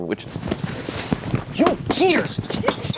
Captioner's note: rustling sound